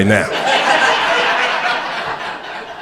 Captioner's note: crowd laughter